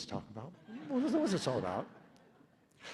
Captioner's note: laughter